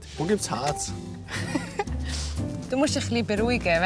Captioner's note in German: lacht